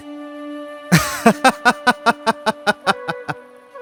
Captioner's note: laughter